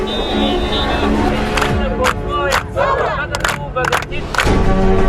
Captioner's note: revolutionaries chanting & applauding